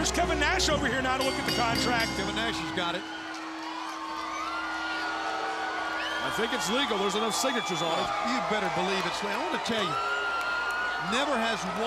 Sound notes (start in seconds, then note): 3.3 crowd cheering